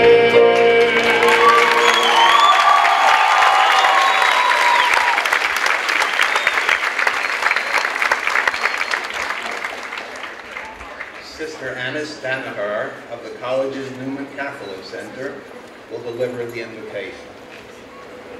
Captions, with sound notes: (clapping) - Sister Alice Danaher of the college's Roman Catholic Center will deliver the Invocation.